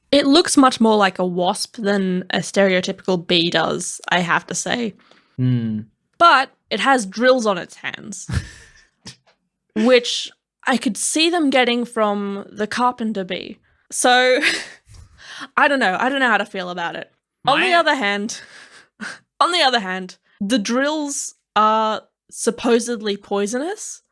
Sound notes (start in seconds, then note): 8.3 quietly laughing; 14.1 laughing